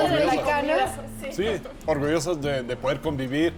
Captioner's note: all speaking Spanish